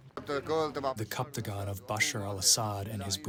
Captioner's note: through translator